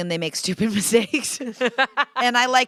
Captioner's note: laughter